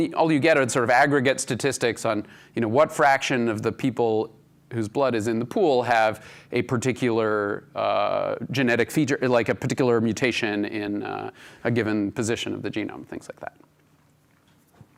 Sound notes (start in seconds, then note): none